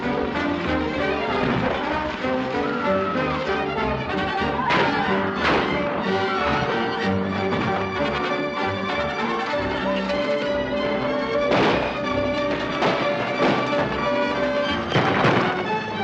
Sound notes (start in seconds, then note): 0.2 frantic music; 4.5 gunshots; 11.4 gunshots and horses galloping